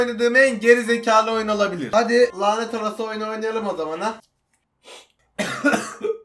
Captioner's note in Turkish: Öksürme